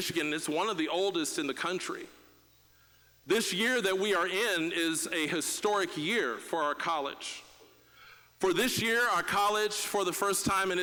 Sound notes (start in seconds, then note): none